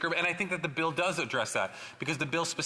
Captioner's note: speaking French